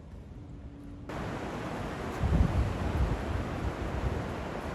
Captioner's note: waves breaking